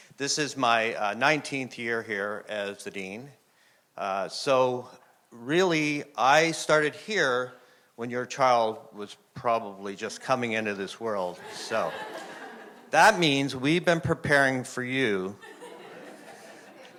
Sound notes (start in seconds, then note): 11.3 audience laughing